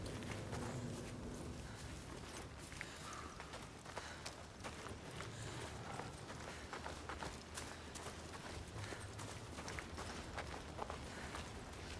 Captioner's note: footsteps